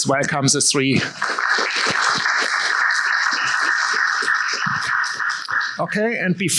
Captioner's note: applause